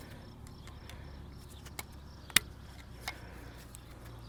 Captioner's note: wire snapping